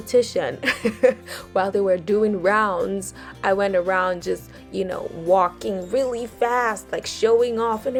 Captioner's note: giggles